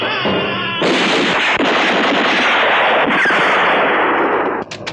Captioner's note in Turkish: Yoğun silah sesleri